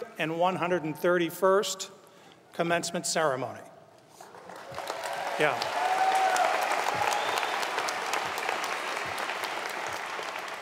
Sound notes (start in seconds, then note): 4.2 audience applauds